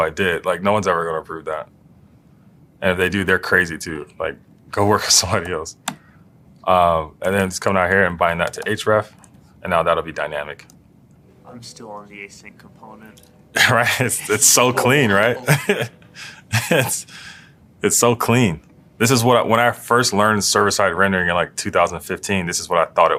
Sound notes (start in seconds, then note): 16.0 laugh